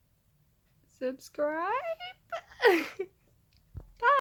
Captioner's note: giggles